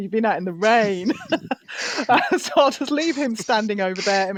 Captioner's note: laughs